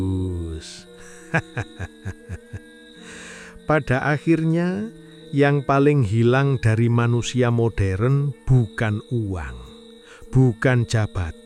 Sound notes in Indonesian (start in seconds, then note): 1.1 tertawa